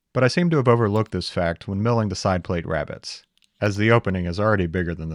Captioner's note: none